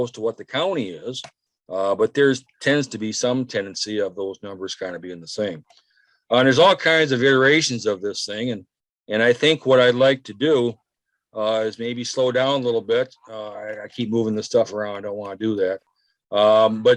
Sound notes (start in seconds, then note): none